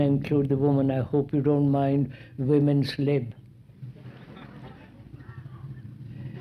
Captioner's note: laughter